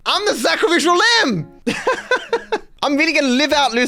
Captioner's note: laughs